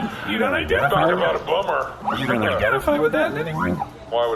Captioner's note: laughing